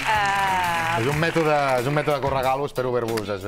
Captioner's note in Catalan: aplaudiments